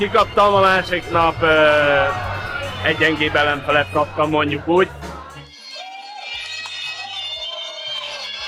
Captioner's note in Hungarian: éljenzés